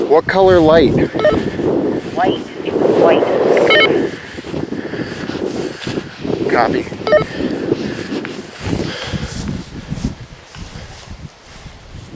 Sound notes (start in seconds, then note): 3.7 walkie talkie bleeps; 3.7 wind gusting